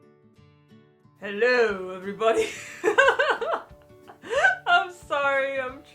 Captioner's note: laughs